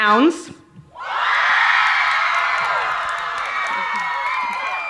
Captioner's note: cheering